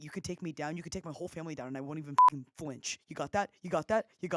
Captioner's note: beep